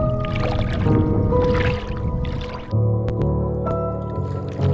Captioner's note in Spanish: salpicaduras de agua